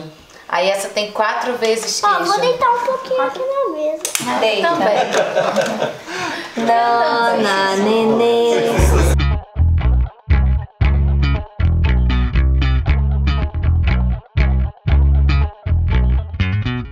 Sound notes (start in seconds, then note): 4.4 laughs; 6.5 indistinct chatter